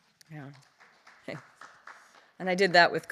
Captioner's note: audience clapping